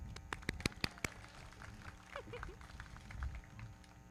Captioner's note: everybody clapping